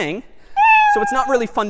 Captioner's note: meow